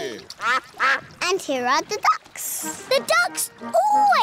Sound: quacking

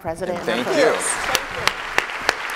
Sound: applause

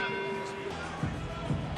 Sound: bell rings

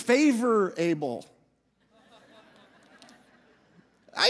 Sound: audience laughing

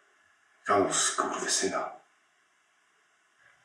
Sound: speaks Polish

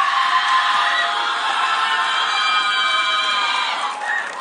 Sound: audience cheering

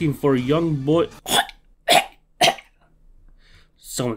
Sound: gag reflex

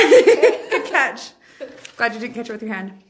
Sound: laughs

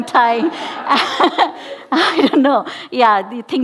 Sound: laughing

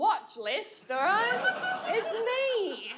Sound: audience laughs

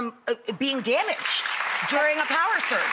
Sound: audience applauding

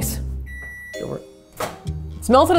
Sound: microwave beeping

